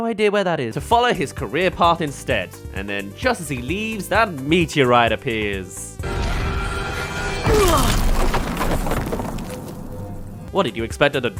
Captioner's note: crash